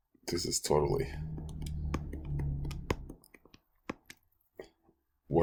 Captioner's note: clicking Sounds